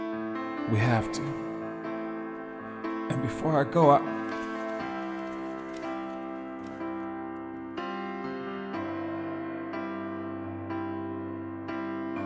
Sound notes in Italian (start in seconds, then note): 4.0 documenti fruscianti